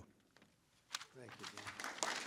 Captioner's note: applause